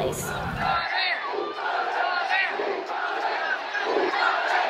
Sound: protesters chanting

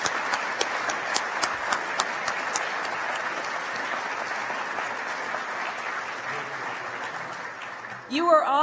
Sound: applause

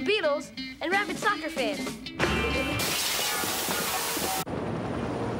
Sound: bonk; helicopter whirring

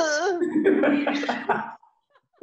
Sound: laughing

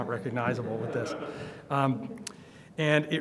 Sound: audience laughs

